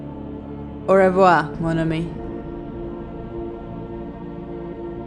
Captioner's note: speaking in French